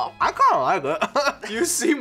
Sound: laughs

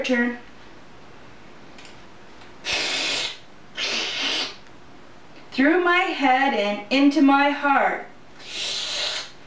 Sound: sucking sound

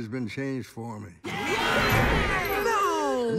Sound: everyone cheers

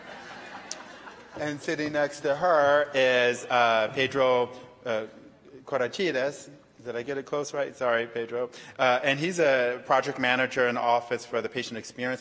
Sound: laughter

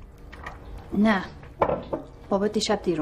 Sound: thud

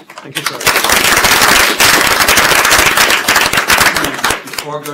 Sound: applause

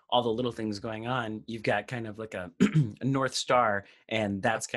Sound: clears throat

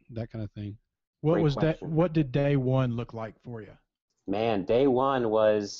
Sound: voiceover

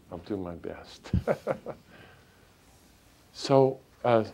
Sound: chuckles

